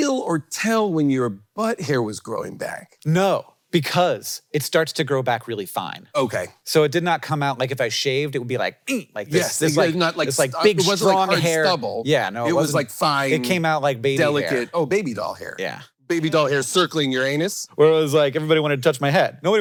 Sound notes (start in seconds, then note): 6.1 grunts